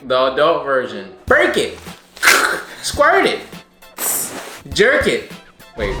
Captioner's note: imitates cracking; hisses